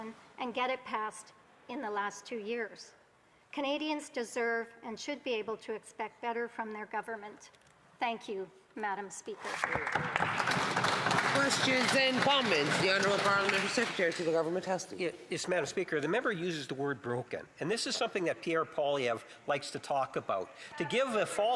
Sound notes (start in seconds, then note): 15.2 some Applause